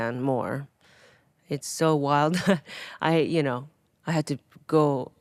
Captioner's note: Atsuko chuckling